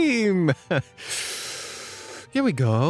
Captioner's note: inhales deeply